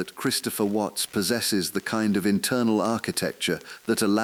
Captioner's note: exhale